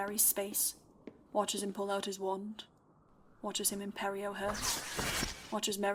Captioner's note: whoosh